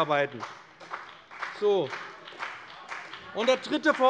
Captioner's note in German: Beifall bei dem BÜNDNIS 90/DIE GRÜNEN und der CDU